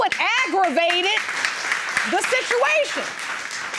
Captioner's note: audience clapping